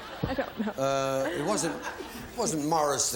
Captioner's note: laughs